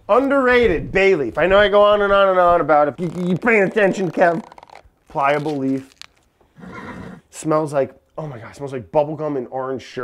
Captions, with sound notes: Underrated bay leaf. I know I go on and on and on about it. You payin' attention, Kev? Pliable leaf. [added squeaking] [lightly sniffing] [horse nickering] Smells like, oh my gosh, smells like bubble gum and orange sherbert,